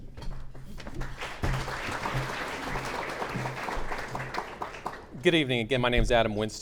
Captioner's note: clapping